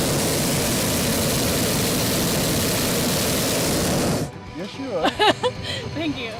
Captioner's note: fire sound